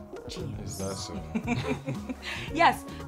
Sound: Efosa laughs

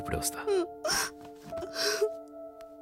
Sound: crying

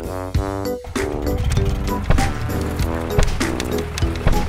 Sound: engine rumbling

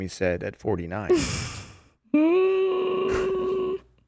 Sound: laughing

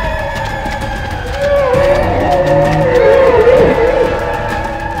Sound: aggressive growl

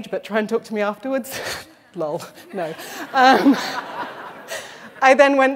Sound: laughter

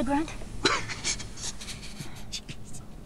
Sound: hunter laughing

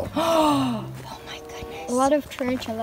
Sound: gasps

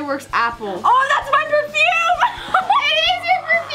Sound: laughing

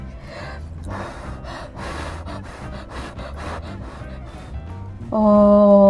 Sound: blowing on the leg

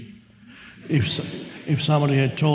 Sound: audience laughs

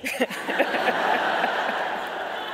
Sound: laughing

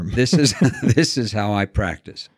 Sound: chuckles

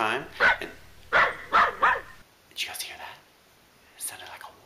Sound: dog woof

